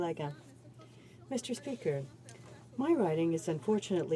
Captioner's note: some Applause